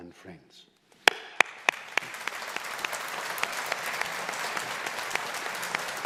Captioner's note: audience applauding